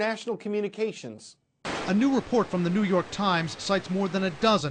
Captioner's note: voice-over